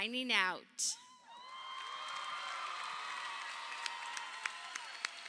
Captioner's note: crowd cheering